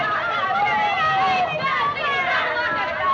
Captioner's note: boys shouting